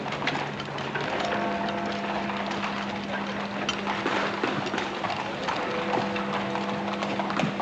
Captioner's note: bell tolling